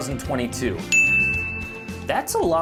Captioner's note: ding